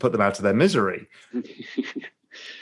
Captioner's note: laughter